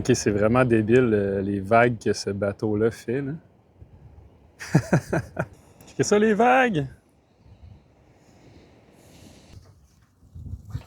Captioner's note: laughs